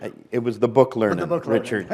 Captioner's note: laughter